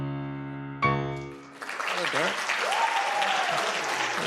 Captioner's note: applause